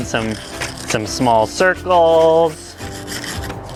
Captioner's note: scrubbing